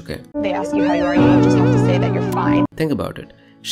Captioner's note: meme noises